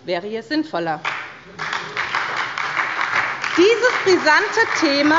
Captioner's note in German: Beifall bei der SPD